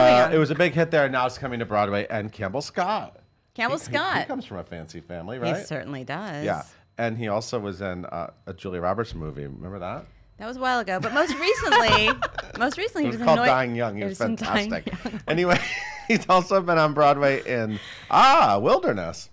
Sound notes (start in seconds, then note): 10.9 laughs